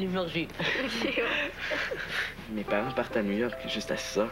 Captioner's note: Rires